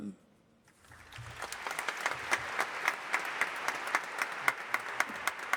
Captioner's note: audience applauding